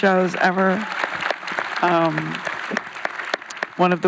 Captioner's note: audience applauds